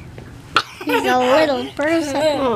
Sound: laughter

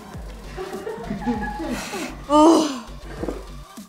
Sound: crew laughing; groans

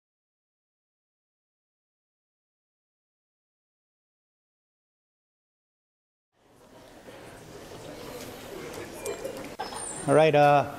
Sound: background Discussion

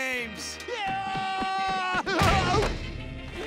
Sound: screaming

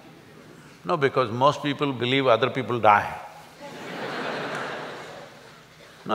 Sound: laughter

